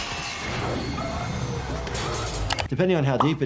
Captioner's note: metal clanks